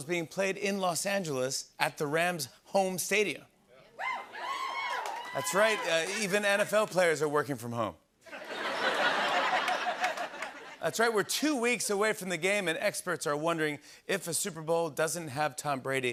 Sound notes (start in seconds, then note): 3.9 cheers; 8.2 laughter